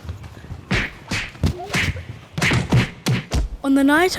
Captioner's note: fighting sounds